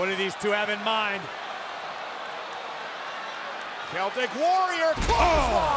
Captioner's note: applause